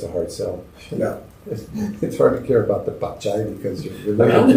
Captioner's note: spanish